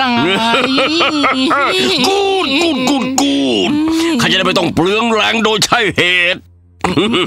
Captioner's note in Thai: หัวเราะ